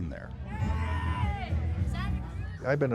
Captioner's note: screaming